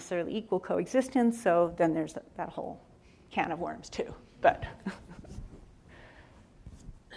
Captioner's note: laughs